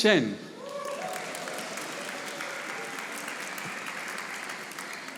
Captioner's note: audience applauding